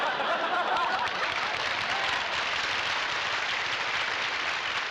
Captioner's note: applause